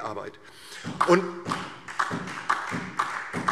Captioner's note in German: Beifall